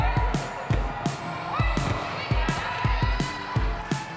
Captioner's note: upbeat music playing; chatter on the court; cheering